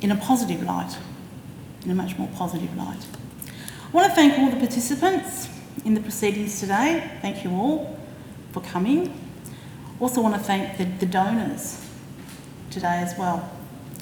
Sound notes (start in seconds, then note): none